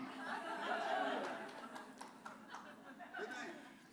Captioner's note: laughter